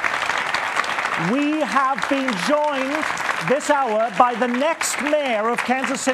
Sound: applause

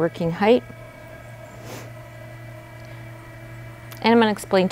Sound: bed whirring

